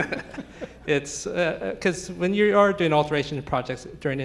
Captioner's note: laughs